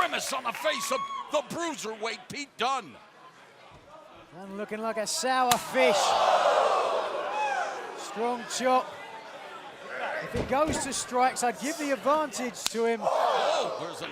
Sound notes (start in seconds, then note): 3.5 crowd cheering